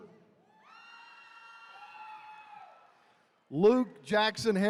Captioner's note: attendees cheering